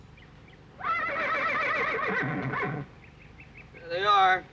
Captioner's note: horse neighing